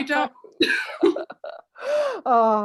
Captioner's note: laughter